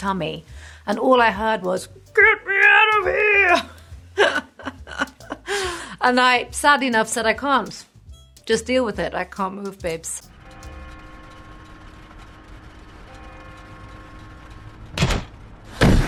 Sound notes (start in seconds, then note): 4.2 laughs; 10.9 church bells